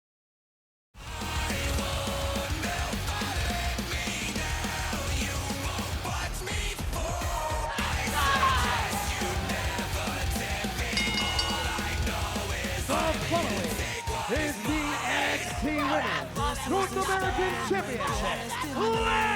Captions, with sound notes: (theme music playing) (Thea yelling) (bell dinging) The following is the NXT Women's North American Championship